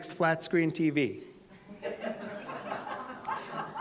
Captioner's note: laughter